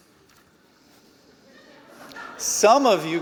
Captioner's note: laughter